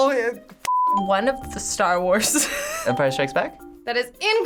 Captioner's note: laughs